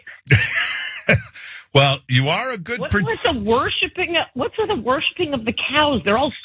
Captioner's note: laugh